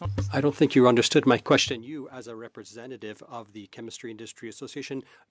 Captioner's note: speaking French